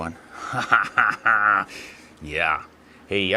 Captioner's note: laughing